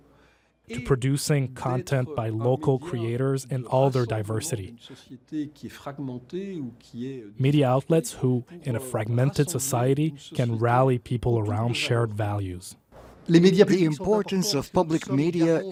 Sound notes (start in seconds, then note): 5.0 French; 12.6 French